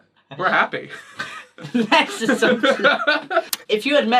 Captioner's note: laughs